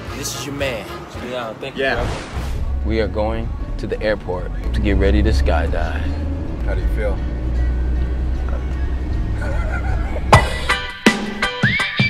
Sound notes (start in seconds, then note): 9.3 laughing; 10.3 upbeat music